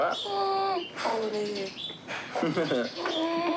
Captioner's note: chuckles